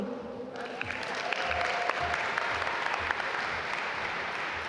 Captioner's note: audience applaud